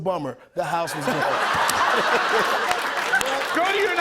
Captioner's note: laughter